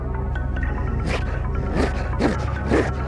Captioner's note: man barking